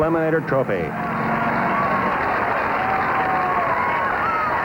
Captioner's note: crowd cheering